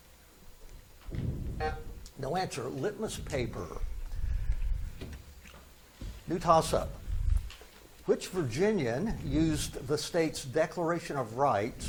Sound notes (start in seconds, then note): 1.3 buzzer buzzes